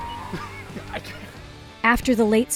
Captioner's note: laughs